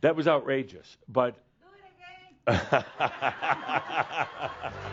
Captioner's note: someone shouts “Do it again!” and lots of laughter